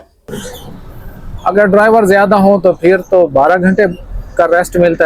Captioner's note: sound of clearing throat